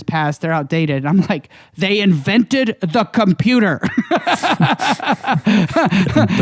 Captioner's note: laughs